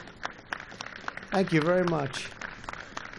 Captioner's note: applause